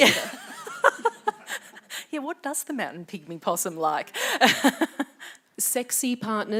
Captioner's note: laughs